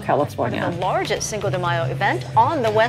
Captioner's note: soundbite of archived recording